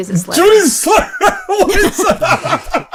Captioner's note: laughs